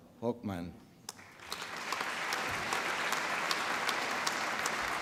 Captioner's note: applause